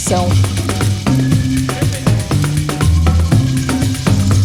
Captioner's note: rattle